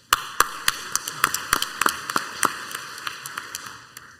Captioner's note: crowd applauds